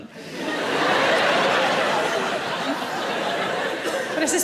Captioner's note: audience laughs